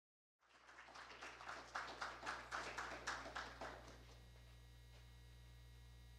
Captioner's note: applause